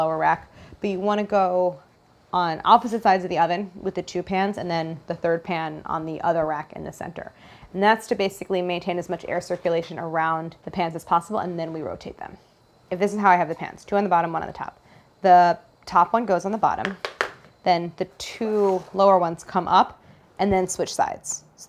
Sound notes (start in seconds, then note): none